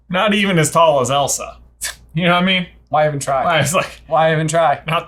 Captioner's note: none